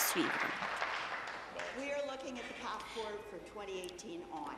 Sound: applause

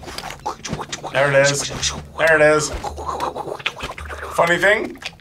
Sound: wooshes

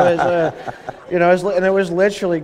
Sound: laughter

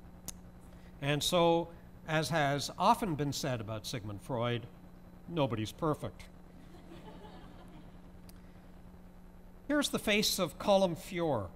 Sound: laughter

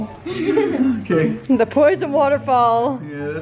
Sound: boys laugh

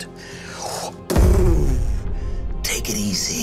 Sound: mimics blow landing and reverberating

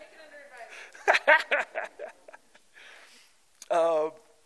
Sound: laughter

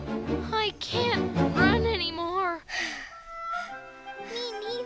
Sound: all breathing heavily

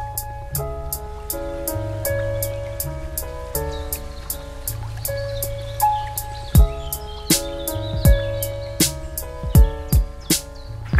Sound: low-fi hip-hop music plays; bird calls, gentle water sounds

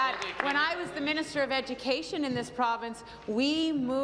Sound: applause

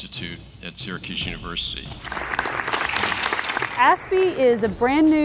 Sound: applauds

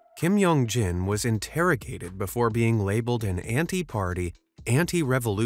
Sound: none

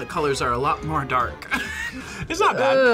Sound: laughs

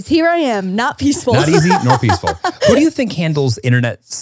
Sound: laughing

